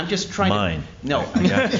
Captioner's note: laughter